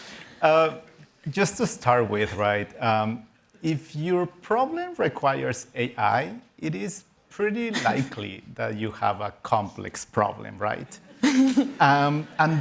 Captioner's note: laughter